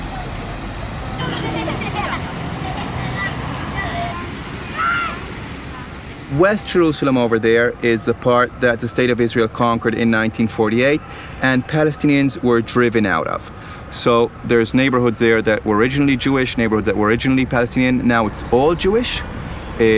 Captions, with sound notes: (children chattering) - West Jerusalem over there is the part that the state of Israel conquered in 1948 and Palestinians were driven out of. So there's neighborhoods there that were originally Jewish, neighborhoods that were originally Palestinian. Now it's all Jewish.